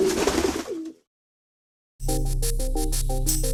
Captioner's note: pigeons cooing